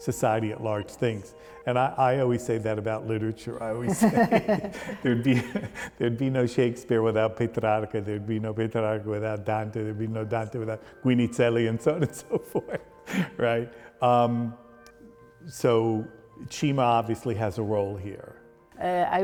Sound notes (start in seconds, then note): 3.7 both laughing; 13.5 laughs